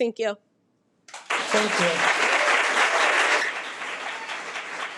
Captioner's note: audience clapping